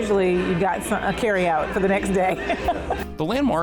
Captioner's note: laughs